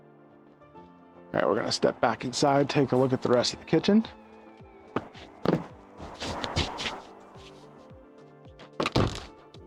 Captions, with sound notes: All right, we're gonna step back inside. Take a look at the rest of the kitchen. (door opens)